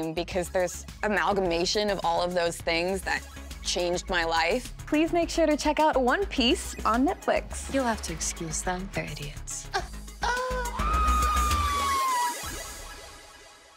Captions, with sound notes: because there's amalgamation of all of those things that changed my life. Please make sure to check out One Piece on Netflix. You'll have to excuse them. They're idiots. - Oh, oh. (yells)